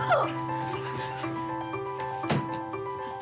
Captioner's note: exclaims